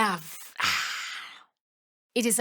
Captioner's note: sighs